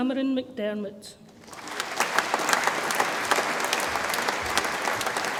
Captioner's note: audience applauds